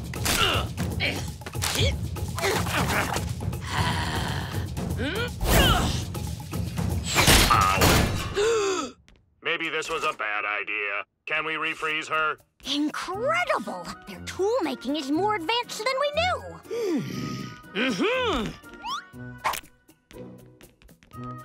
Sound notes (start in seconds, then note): 0.2 grunting; 8.1 gasps